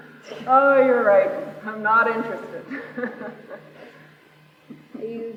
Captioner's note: laughs